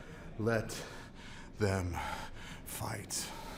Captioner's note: breathing hard